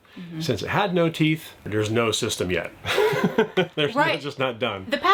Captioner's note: laughs